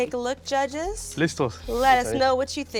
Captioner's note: speaks Spanish